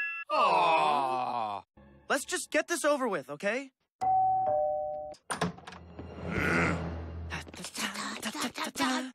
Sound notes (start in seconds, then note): 4.0 doorbell rings; 7.1 scatting